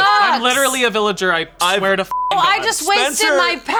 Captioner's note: beep